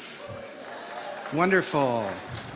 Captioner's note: crowd cheers